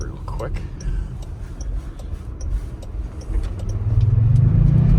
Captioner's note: starship sounds